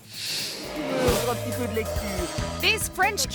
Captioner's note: screen swooshes; speaks in French